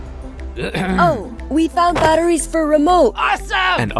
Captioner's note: clears throat